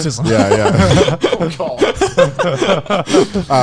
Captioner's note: laughs